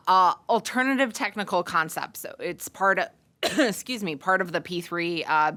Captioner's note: cough